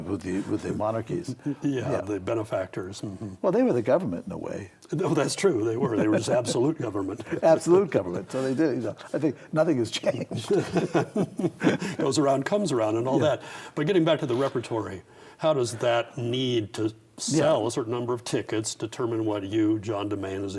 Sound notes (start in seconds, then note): 10.3 both laugh